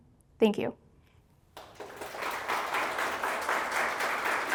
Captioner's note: applause